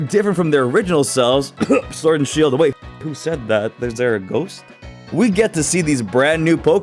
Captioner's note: cough